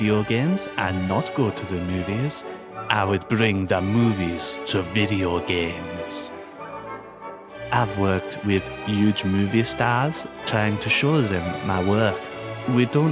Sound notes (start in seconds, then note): none